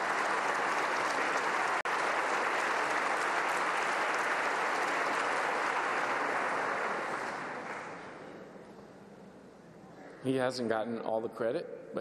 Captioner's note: applause